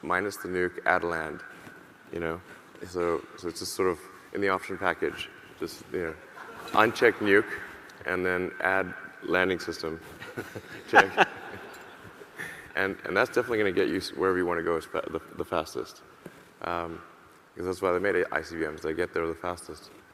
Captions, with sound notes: minus the nuke, add a land, you know? So, just sort of in the option package. Just, you know, (audience laughing) uncheck "Nuke" and then add "Landing System". (laughs) (laughing) And that's definitely going to get you wherever you want to go the fastest. 'Cause that's why they made ICBM's, they get there the fastest.